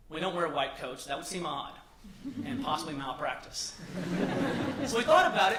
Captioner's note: laughter